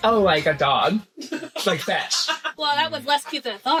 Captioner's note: laughter